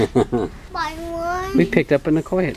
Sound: dad laughing

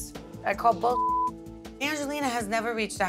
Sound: beep

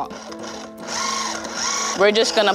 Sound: whirring

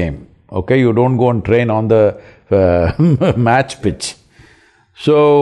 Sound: laughs

